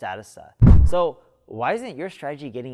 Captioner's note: air swish